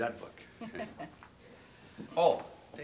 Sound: Gordon and Rollins laugh

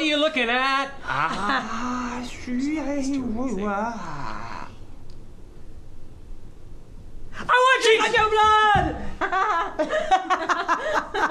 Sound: deep monster voice

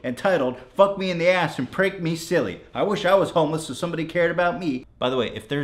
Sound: none

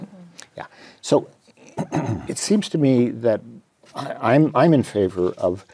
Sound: cough

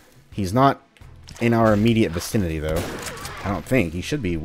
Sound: boom

